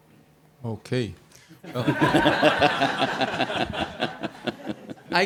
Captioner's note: laughter